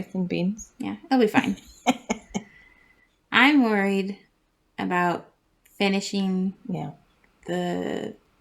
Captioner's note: laugh